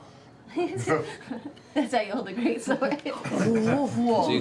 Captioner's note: laughter